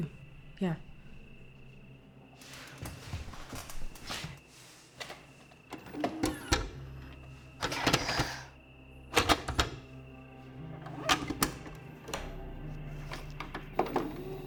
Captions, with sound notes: - And the doll too. Yeah. (VCR whirs) - Okay. (VCR clicks and whirs)